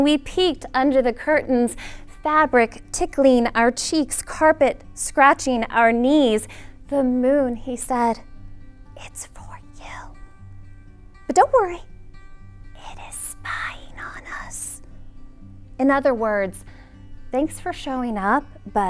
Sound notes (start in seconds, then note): 8.7 whispering; 12.9 whispering